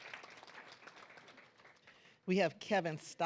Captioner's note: claps